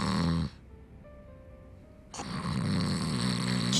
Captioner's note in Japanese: 鼻息